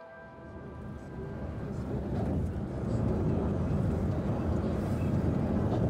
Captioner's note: noise from the car; A street noise